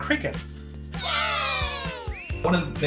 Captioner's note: squeaky voice